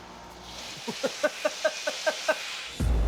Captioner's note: laughs